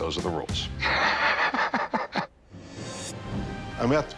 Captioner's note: laughs